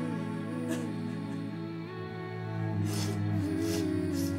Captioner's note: Keely sobs